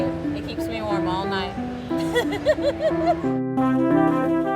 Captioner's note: laughs